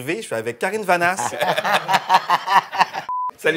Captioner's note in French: rires